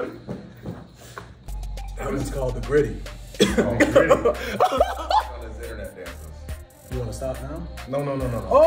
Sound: laugh

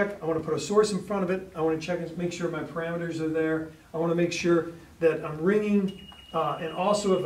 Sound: alarm beeps

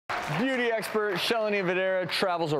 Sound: applause

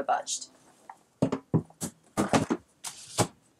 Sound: clunking; window sliding and locking

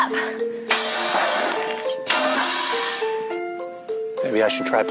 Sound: metal clunking

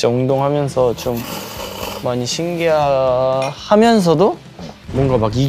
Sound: slurp

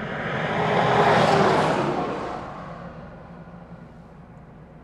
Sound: truck roaring

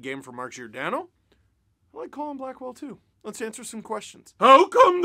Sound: funny voice

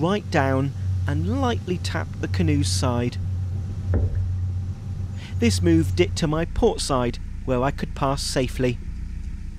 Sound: tap Sound

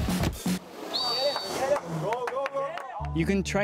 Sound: applause

